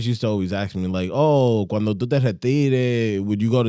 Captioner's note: speaking In Foreign Language